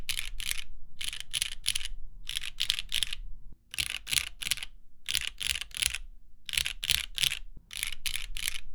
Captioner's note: keyboard clacking